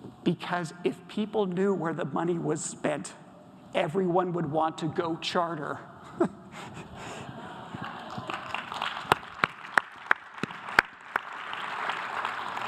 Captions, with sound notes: "Because if people knew where the money was spent, "everyone would want to go charter." (audience applause)